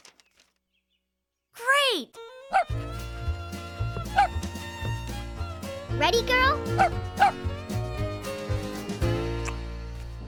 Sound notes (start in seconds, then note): 2.4 barking; 7.1 barking